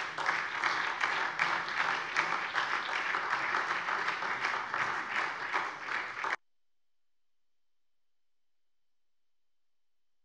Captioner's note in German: Beifall SPD und vereinzelt DIE LINKE